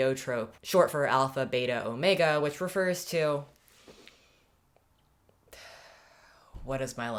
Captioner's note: longer sigh